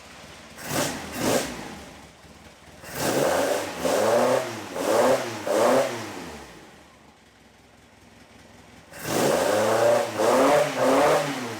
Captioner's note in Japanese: エンジン音